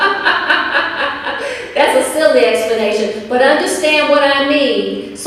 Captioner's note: chuckles